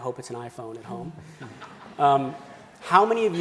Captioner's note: laughing